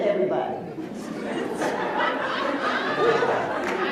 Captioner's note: laughs